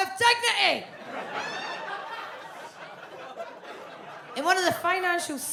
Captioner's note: audience laughs